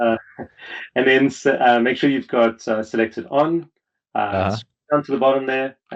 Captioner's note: laughs